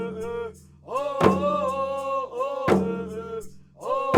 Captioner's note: chanting continues